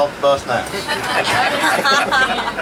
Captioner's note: laughing